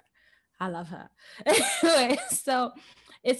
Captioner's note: laughs